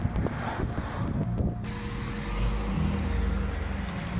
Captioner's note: traffic sounds